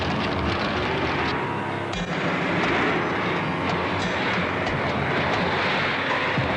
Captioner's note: flamethrowers whooshing; erratic dramatic music continues